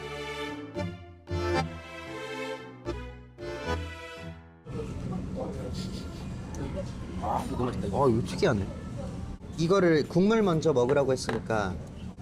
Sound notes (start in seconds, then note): 5.7 sniffing intently